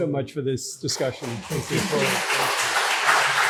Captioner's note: audience applauds